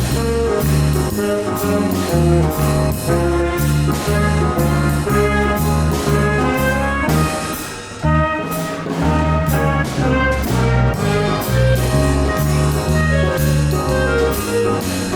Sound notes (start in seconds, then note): 2.3 audience cheers